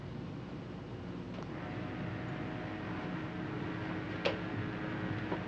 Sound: distant whistle blaring

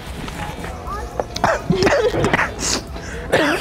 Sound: chokes

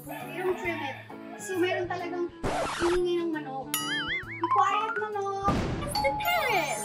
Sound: chicken crowing

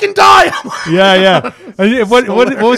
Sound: laughter

